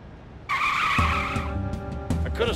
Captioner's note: tires screech